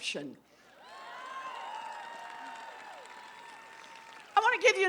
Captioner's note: applause